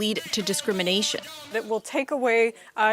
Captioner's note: whistle